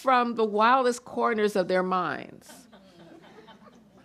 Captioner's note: chuckling